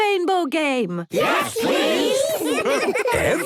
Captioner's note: laughter